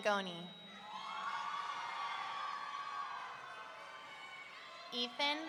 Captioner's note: audience cheering